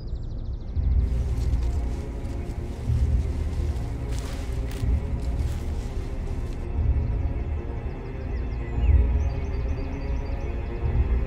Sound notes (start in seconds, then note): 4.1 leaves rustling; 8.1 suspenseful music